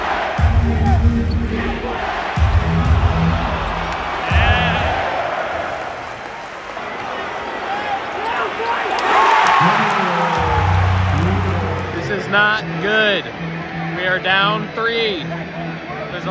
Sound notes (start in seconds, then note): 1.2 crowd; 1.4 crowd booing; 2.2 beat playing; 9.0 crowd cheering